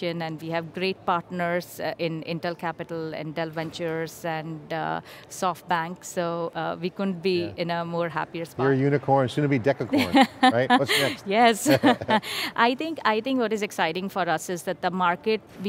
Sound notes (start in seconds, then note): 9.9 laughing; 11.6 laughs